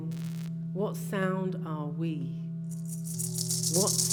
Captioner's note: cowry shells rattle assuredly